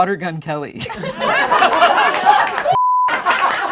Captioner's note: laughing